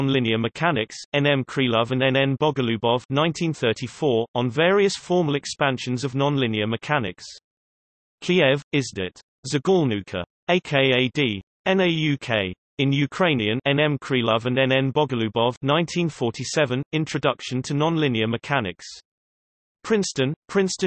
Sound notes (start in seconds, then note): 12.1 in Ukrainian